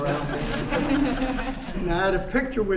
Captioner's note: laughter